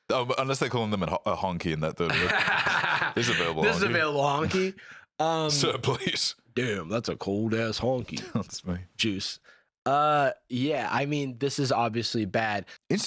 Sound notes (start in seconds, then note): 2.1 laughs